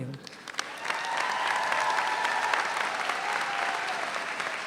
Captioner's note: all applaud